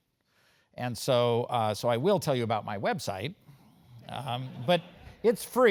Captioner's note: laugh